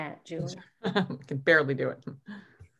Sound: chuckles

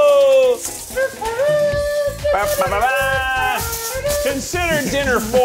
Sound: making trumpet noises with mouths

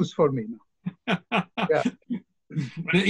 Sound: laughs

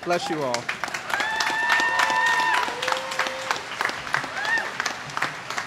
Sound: applause

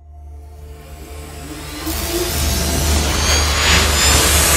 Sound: logo whooshes

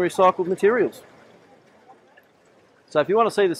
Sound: water burbling

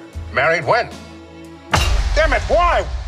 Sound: Mr. Heart Slams Table

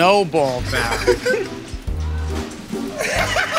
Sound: light laughter; laughter and applause

